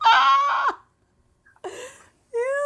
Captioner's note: laughing